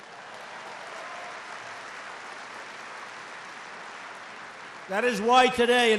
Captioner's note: applause